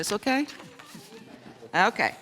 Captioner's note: chuckling